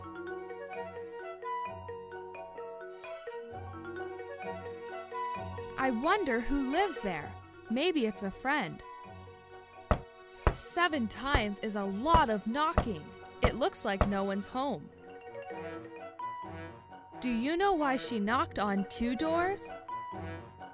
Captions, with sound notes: (animated music) I wonder who lives there? Maybe it's a friend. (Mrs. Snowman knocking) Seven times is a lot of knocking. It looks like no one's home. Do you know why she knocked on two doors?